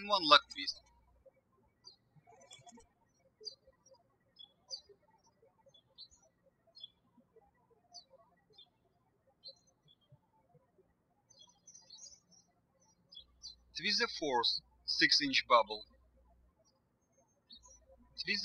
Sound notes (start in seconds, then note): 2.8 bird chirping